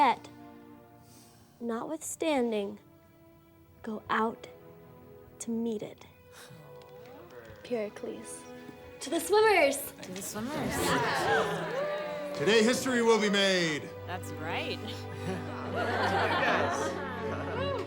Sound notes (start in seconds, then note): 10.5 class cheers; 15.2 class laughs